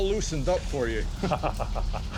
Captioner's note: chuckles